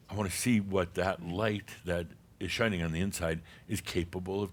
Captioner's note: none